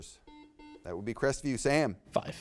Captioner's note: buzzer beeps